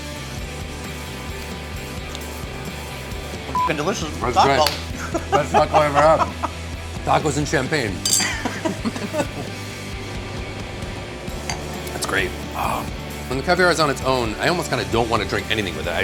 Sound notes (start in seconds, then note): 3.5 beeps